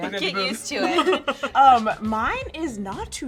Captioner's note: laughing